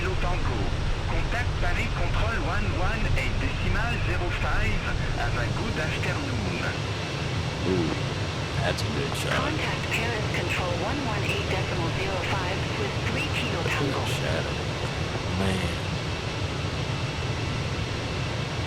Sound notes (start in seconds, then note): 13.5 radio chatter